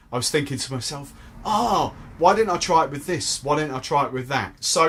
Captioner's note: groans